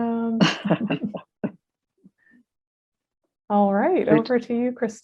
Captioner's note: laughs